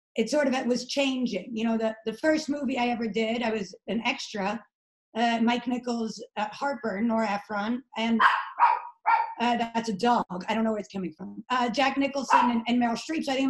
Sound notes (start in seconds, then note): 8.2 dog barking